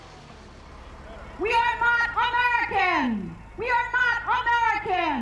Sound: engine rumbling

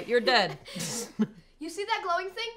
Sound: laughs

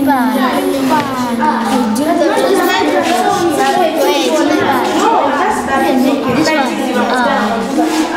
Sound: children talking

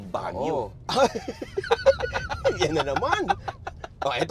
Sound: laughs

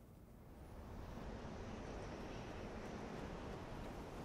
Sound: wind gusts

